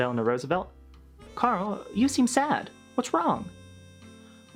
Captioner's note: in FDR's voice